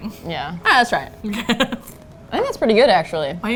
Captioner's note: laughs